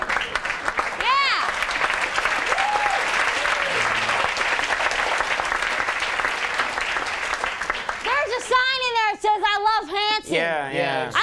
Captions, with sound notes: Yeah! (audience applauds) There's a sign in there that says I Luv Hanson. Yeah, yeah. Yeah, we saw.